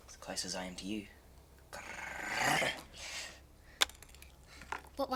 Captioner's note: growls